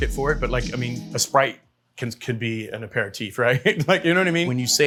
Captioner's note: laughs